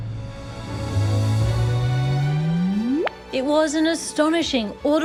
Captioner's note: low hum rises, ends with a click